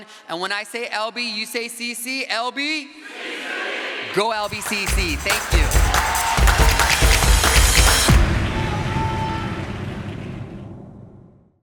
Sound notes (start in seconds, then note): 4.4 crowd applause; 6.8 upbeat music plays; 9.3 music fades out